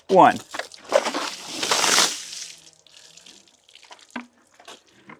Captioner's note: water splashing